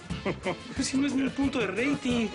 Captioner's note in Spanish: Risas